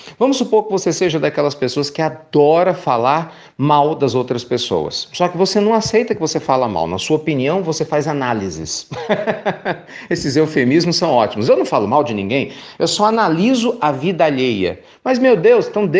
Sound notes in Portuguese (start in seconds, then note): 8.8 risadas